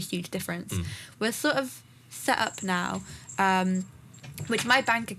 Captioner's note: Joey’s bells ring in the background